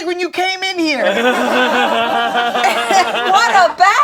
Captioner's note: group laughing